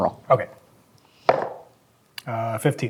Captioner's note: dice rolling